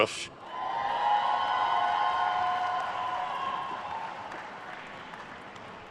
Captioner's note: attendees cheering and applauding